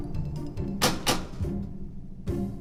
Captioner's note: pounding